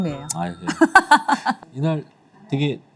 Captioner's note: haha